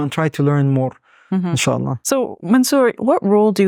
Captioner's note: speaking Arabic